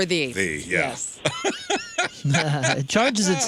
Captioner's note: laughing